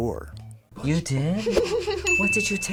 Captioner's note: laughs